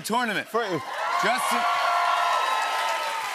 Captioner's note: cheers and applause